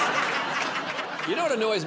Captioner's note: laughter